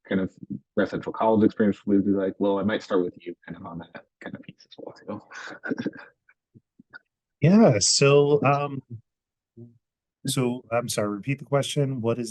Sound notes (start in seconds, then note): 5.2 laughs